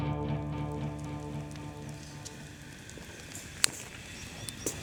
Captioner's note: fire crackling